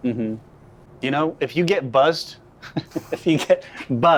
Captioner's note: laughs